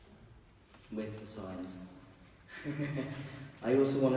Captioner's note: laughs